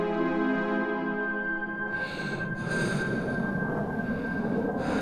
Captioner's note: shaky breathing